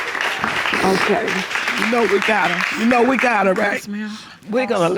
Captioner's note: sniffles